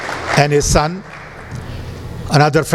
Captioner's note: applause